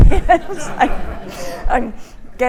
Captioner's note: audience laughing